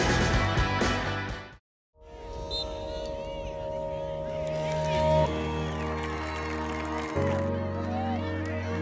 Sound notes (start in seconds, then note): 0.0 even-paced rock music; 4.7 distant whistle blows; 7.4 cheering and clapping